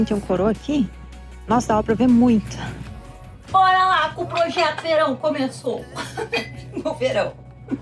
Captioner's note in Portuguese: risadas